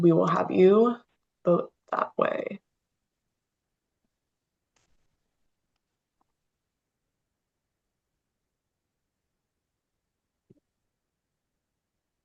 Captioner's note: pause